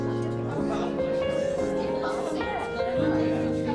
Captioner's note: lively chatter continues